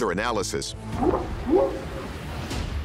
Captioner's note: whooping sound